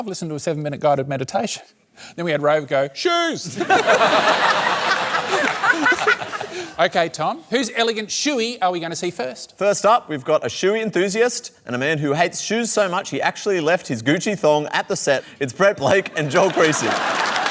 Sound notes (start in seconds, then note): 3.5 laughter